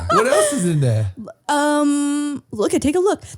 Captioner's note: laughing